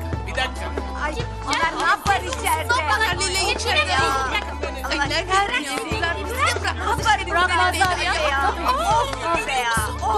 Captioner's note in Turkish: Tartışma sesleri